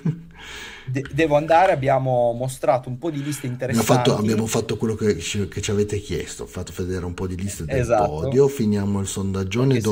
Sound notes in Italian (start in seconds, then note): 0.0 risate